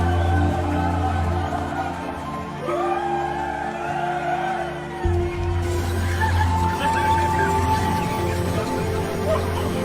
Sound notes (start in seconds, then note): 0.0 gentle music; 0.5 people chanting; 7.1 gentle music